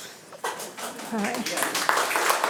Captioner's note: attendees applauding